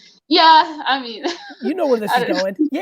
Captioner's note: laughs